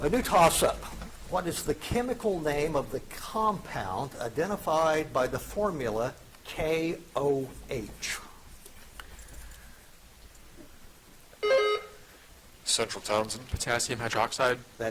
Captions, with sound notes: A new tossup. What is the chemical name of the compound identified by the formula KOH? (buzzer chiming) - Central, Townsend. - Potassium hydroxide.